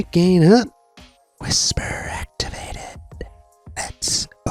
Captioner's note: whispering